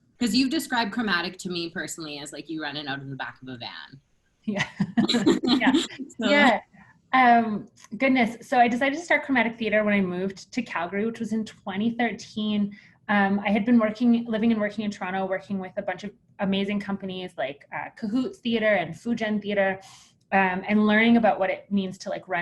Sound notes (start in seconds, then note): 4.6 laughter